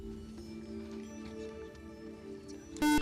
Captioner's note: whispering; beep